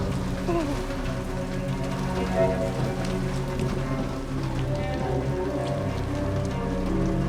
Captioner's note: eerie music; rain pattering; Faraday whimpers